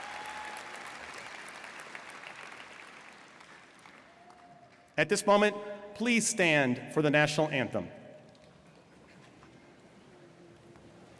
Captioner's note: applause